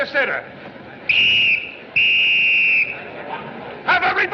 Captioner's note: whistle Tweeting